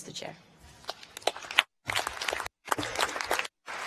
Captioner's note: applause